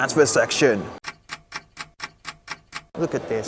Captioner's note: clock ticking